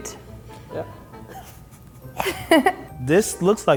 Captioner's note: laughing